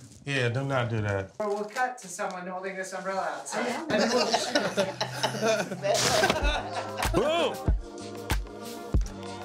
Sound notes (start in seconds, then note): 3.8 laughing